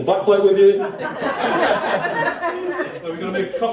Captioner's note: laughter